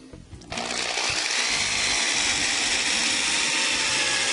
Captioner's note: drill whirring